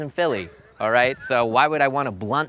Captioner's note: laughs